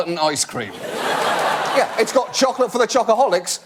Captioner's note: audience laugh